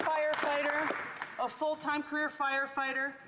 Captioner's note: applause